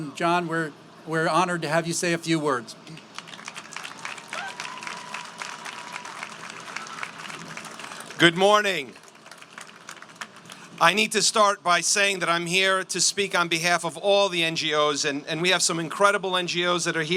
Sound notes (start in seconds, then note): 2.9 applause